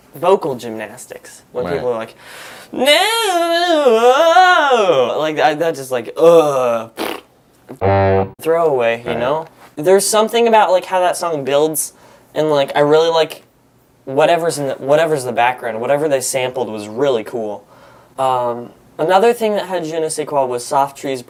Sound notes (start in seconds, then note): 9.1 honk